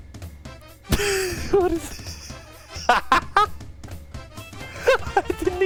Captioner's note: laughing; laughing harder